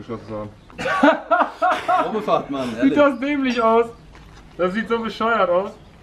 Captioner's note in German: Lachen